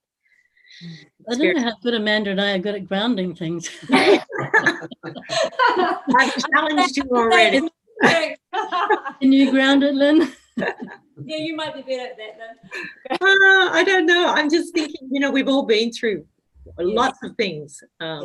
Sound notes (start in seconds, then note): 3.8 lachen